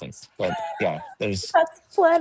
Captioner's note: laughs